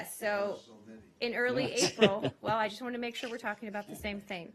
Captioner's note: laughter